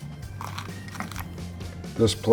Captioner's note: pepper crunches